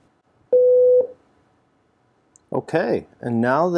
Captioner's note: Algo beeps